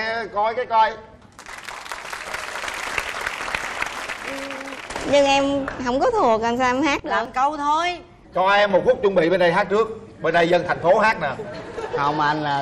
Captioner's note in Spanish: Aplaudir